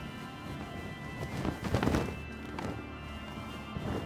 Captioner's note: sheet flaps